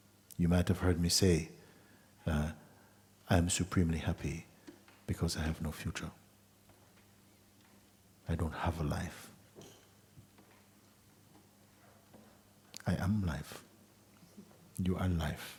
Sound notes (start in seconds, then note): none